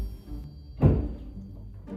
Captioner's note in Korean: 쿵!